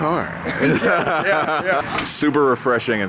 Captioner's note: laughs